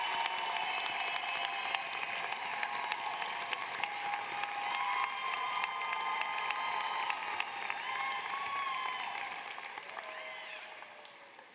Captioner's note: cheers and applause